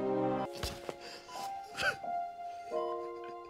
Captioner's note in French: Pleurs de Peter